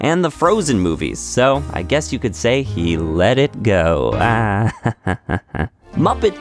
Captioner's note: laughs